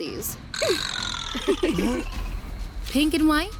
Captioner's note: Ally and Benji snickering